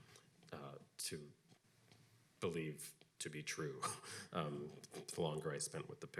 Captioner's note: chuckles